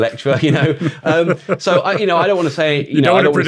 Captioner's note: laughing